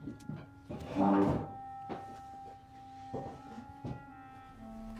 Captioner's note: chair scrapes